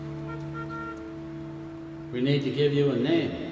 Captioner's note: car horn honking